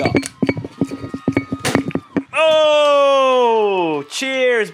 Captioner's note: cork pops